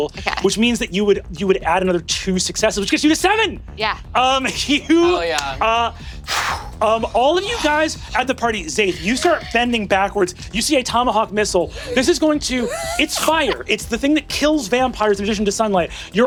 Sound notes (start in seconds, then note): 6.1 exhales sharply and growls; 6.3 laughs